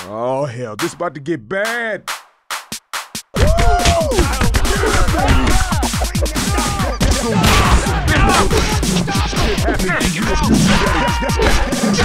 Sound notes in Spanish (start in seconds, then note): 3.2 Coach grita